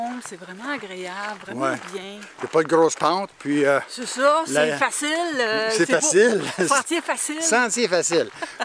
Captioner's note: laughs